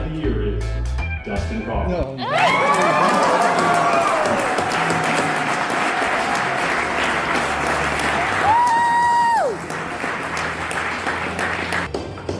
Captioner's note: loud applause & yelling